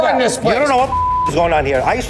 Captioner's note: beeps